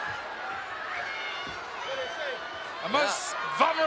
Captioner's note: audience chattering